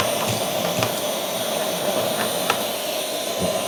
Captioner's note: vacuum